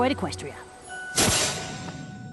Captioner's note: poof